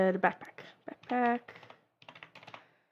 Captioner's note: sounds of typing